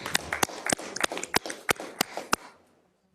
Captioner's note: applause